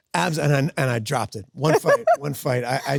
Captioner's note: Sydney laughs